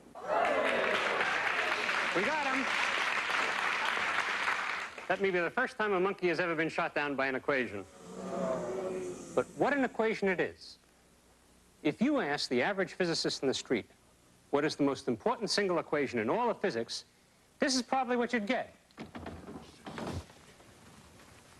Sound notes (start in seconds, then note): 2.1 applause